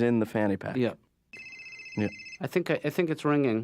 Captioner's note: ring